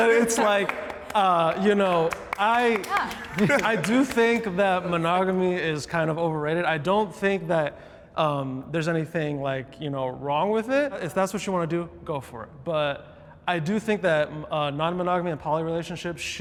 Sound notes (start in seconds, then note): 2.2 people clapping